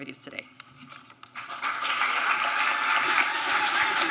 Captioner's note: applause